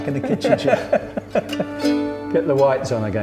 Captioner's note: both laughing